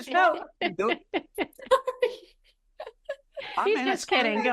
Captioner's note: laughing